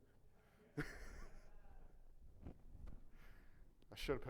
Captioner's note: audience laughing